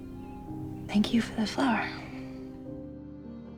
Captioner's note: voiceover